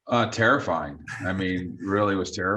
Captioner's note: chuckles